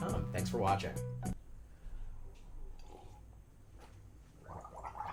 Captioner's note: gargling